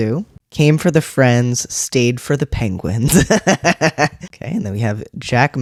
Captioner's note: laugh